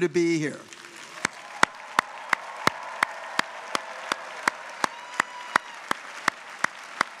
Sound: audience applauds; audience cheers

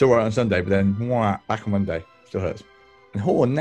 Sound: brays

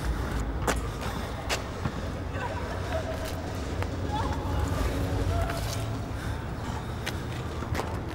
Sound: weeping, screaming replaying

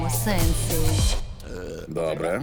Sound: burps

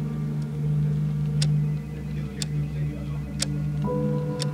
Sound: clock ticking

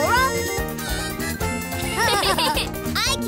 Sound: laughing

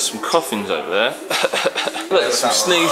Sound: coughs

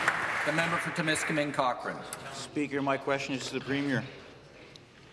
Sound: some Applause

